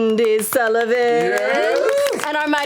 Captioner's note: applause